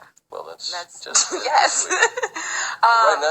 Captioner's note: laughing